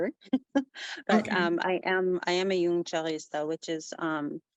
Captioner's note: speaking native language